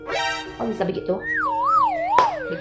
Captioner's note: clap hand